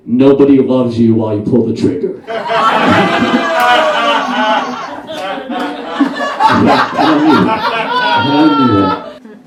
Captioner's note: audience Laughs